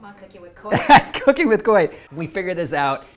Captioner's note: laughs